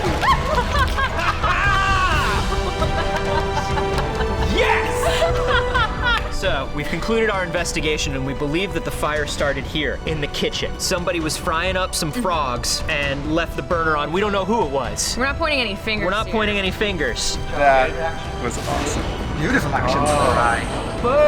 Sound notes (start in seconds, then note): 0.1 laughter; 0.1 scream; 5.3 laughter